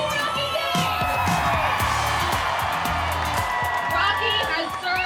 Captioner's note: cheering